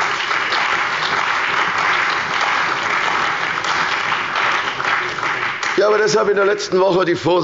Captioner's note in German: Beifall bei der CDU und dem BÜNDNIS 90/DIE GRÜNEN